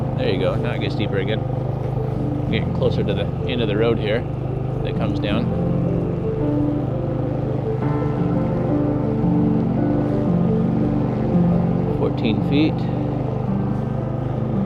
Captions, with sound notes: There you go, now it gets deeper again. We're getting closer to the end of the road here that comes down. (boat rumbling) (soft music continues) 14 feet.